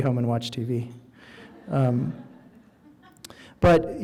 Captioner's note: audience laughing